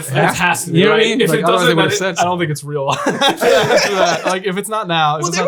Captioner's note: laughing